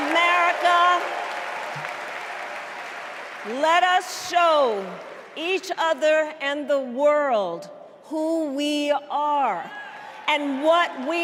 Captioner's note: cheers and applause